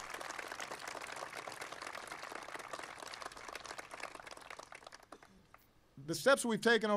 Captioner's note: applause